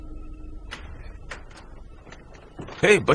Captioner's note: door opens